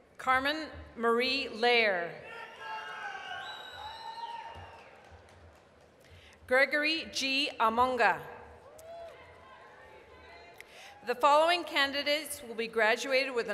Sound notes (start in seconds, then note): 2.3 applause, cheering; 9.5 applause